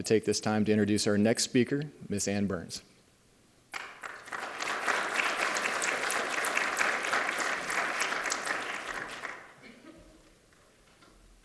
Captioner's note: applause